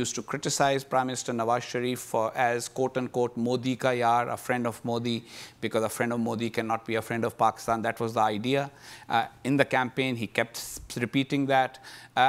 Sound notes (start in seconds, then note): 2.8 speaking in foreign language